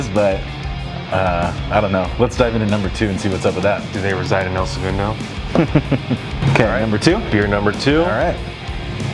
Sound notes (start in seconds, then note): 5.4 laughing